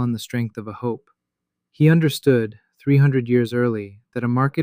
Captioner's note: thoughtful